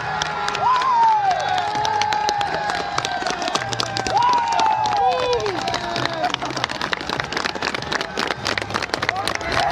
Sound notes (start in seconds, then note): 0.1 audience clapping; 2.9 audience cheering